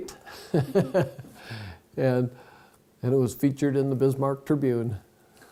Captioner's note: laughs